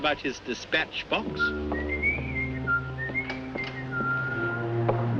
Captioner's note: Purser on SS Nyanga whistling